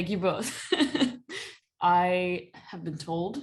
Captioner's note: laughter